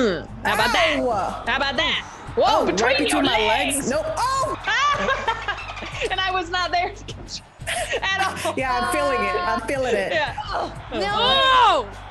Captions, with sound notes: how about that, how about that, between your legs, nope, [LAUGH] >> And I was not there, at all. >> Yeah, I'm feeling it. I'm feeling it.